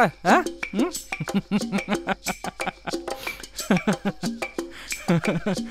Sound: laughs

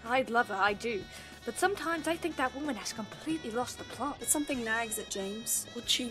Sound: none

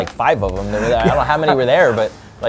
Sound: laughing

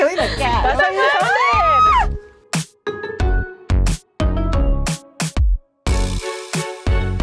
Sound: screaming; upbeat violin music

